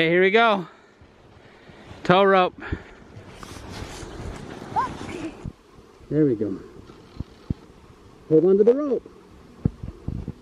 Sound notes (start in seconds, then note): none